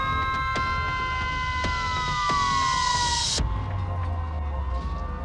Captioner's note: sirens wailing